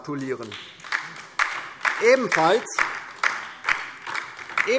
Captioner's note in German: Beifall DIE LINKE